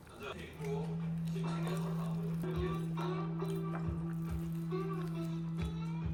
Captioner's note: too busy chewing to speak